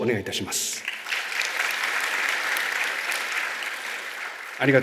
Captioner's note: clapping sound